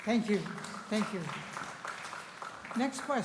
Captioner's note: applause